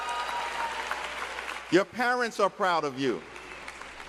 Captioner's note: cheers and applause